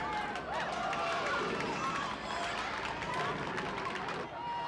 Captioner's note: crowd cheering